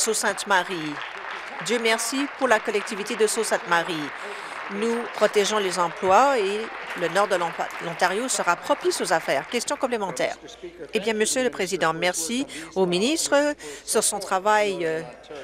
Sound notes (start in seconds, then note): 3.4 applause; 8.8 applause